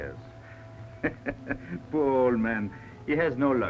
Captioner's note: chuckles